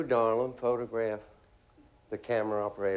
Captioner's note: none